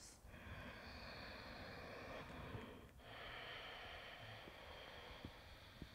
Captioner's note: deep breathing